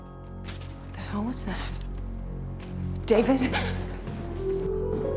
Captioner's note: wheelchair clanking